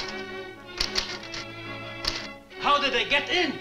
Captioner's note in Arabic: صوت طقطقة الآلة الكاتبة